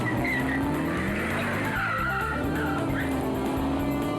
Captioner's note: car screeches